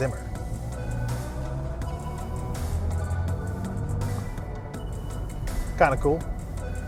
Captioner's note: car engine revving